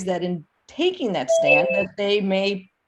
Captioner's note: computer notification